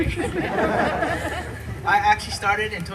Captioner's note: laughter